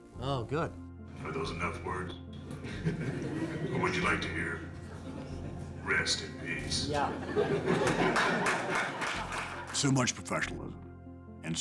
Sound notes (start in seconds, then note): 2.5 audience laughs; 7.0 audience laughs and applauds